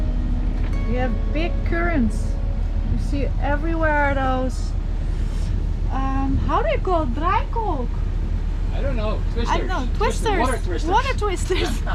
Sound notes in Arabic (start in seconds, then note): 7.3 لغة أجنبية